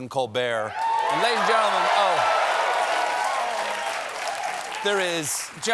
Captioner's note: cheers and applause